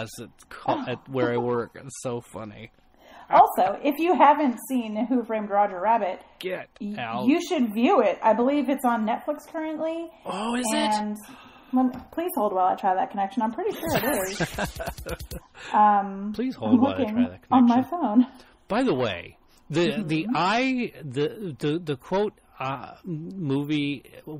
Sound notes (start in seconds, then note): 10.0 gasps; 13.8 DJ laughs